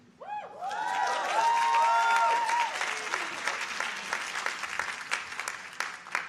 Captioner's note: audience applauding